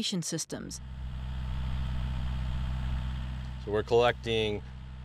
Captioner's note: equipment buzzing